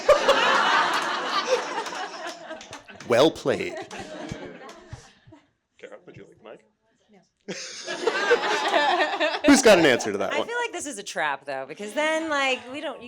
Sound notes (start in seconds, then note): 0.0 everyone laughing; 7.6 audience chuckling